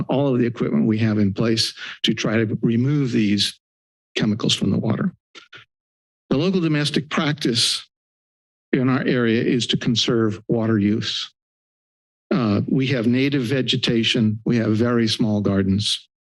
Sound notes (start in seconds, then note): 11.2 silence